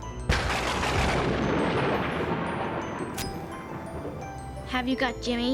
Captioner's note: thunder crashing